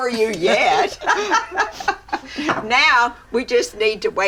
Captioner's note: both laughing